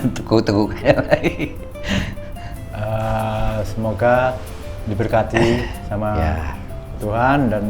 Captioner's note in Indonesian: tertawa